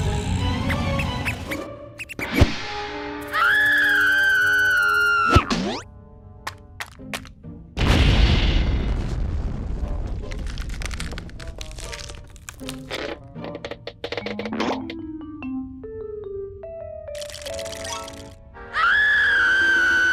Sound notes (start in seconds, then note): 0.2 mouse squeaks; 3.2 screams; 17.2 teeth chattering; 18.7 screams